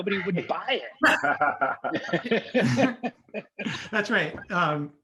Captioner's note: group laughing